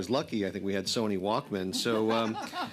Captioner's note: laughter